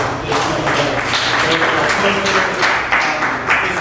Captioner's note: applause